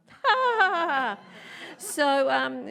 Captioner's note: laughs